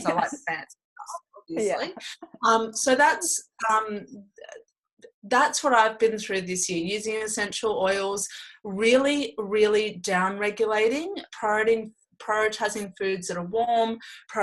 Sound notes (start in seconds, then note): 1.9 laughs